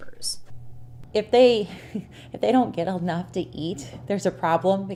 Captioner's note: laughs